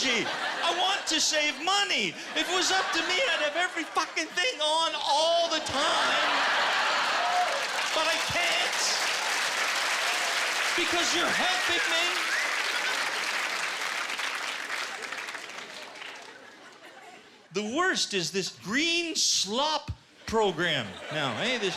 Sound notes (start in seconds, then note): 6.3 laughter and applause; 12.4 applause